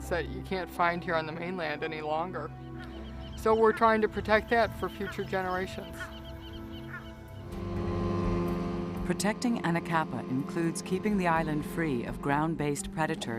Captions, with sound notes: that you can find here on the mainland any longer. So we are trying to protect that for future generations. (sound of boat engine) Protecting Anacapa includes keeping the island free of ground based predators